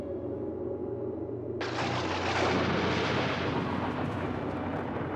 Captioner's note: thunderstorms